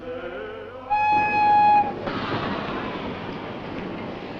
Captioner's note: whistle blows